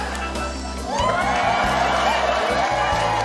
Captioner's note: cheering, applause